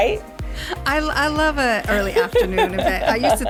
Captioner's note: laughs